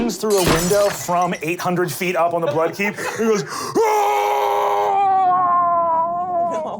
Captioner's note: screaming